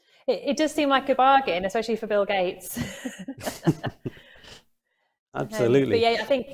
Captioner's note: both laugh